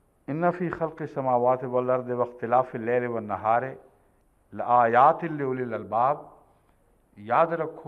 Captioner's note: Arabic